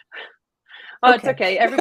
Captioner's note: chuckles